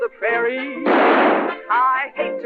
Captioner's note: gunshot